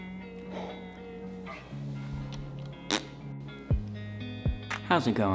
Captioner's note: blows raspberry